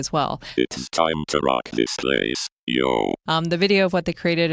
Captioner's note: robot voice